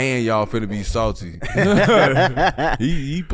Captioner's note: group laughs